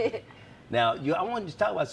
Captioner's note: laughs